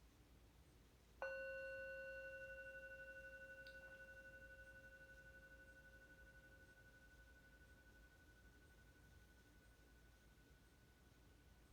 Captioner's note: meditation bell rings